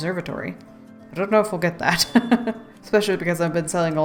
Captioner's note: laughs